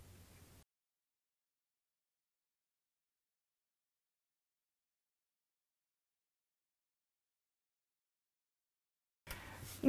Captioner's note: no Sound Present